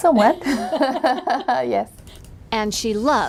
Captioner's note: giggles